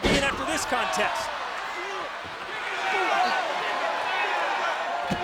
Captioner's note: crowd chattering